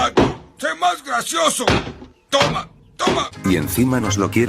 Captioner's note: pounding sound